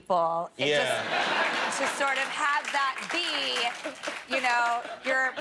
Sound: laughter

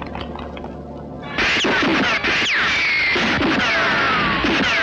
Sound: gun Firing

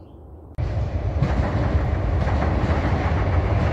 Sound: train clanking

